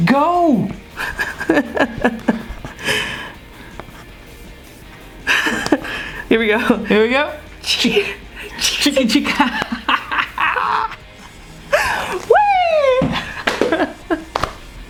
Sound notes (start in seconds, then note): 0.9 laughs